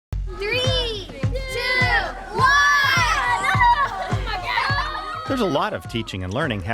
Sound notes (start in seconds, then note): 1.1 children laughing